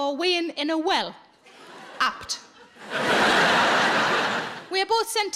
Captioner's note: audience laughs